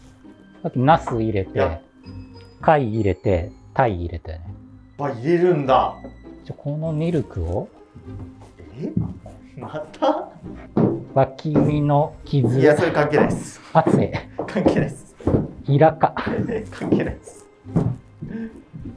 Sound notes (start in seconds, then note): 15.9 laughing